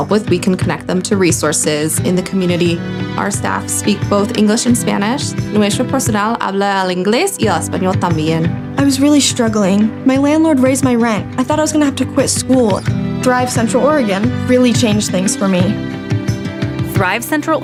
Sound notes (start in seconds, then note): 5.4 Spanish